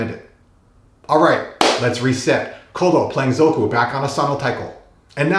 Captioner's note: clap